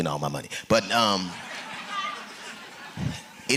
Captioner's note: laughter